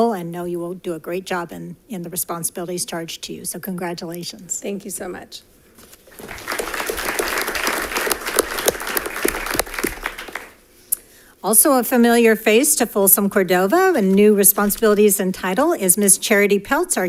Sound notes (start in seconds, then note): 6.1 audience applauding